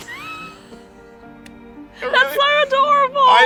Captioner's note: chuckles